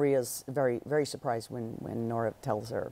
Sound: none

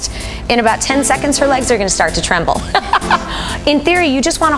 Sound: laughs

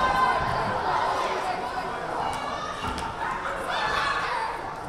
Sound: crowd chattering

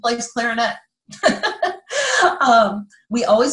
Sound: laughing

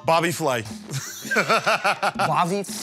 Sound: laughter

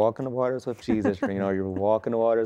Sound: giggling

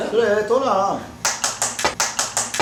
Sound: claps with passion

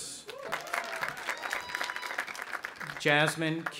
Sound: audience applauding

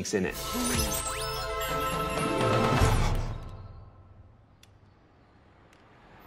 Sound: wondrous music; game chimes and dings

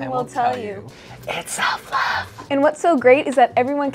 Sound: whispering

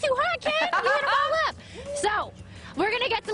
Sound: laughter

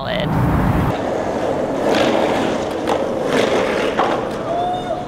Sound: skateboard grinding

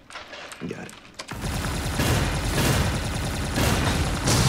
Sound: guns firing

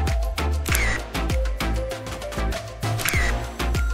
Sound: camera shutter

